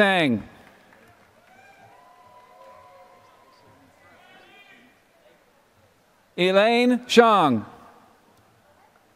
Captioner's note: applause